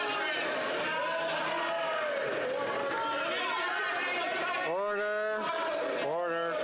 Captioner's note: applause